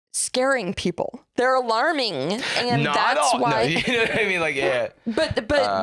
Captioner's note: laughs